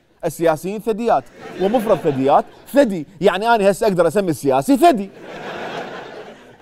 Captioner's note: twisting the word in Arabic